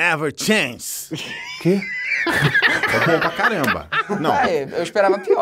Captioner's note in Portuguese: risadas